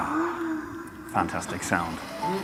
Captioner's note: car engine revving